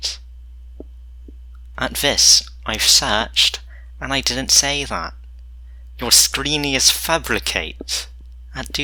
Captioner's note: weird Accent